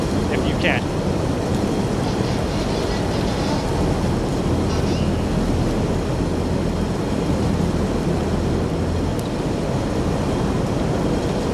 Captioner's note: machine blowing